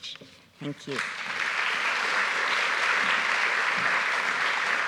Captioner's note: audience applauds